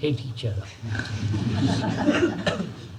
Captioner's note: laughter